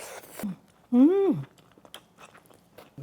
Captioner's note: slurps